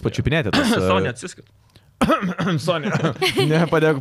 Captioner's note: cough